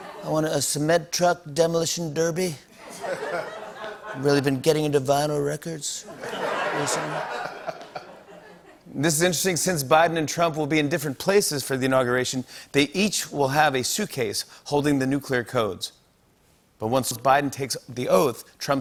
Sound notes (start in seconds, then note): 2.8 laughter; 6.0 laughter